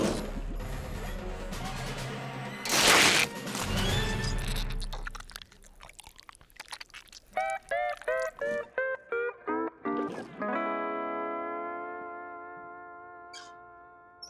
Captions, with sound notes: Oh, no, you don't! [growls] Mallet, please!